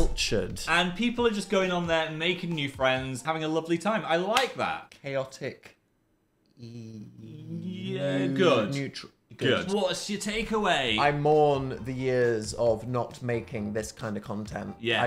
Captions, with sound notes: - Cultured. - And people are just going on there and making new friends. Having a lovely time. I (claps) like that. - Chaotic. (stutters) - Good. - Neutral. - Good. What's your takeaway? - I mourn the years of not making this kind of content.